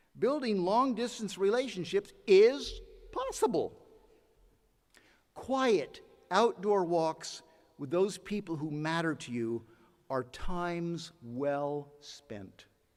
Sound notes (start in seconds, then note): none